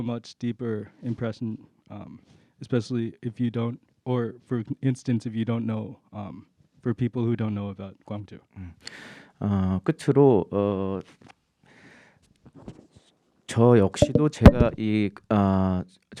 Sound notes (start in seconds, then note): 9.7 speaking in Korean